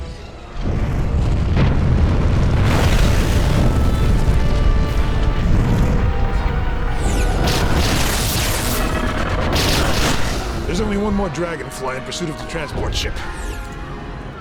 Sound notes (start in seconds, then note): 2.0 explosions